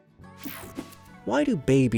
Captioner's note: image whooshing